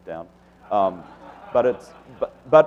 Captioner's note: audience laughs